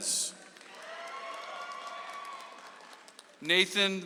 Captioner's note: audience applauds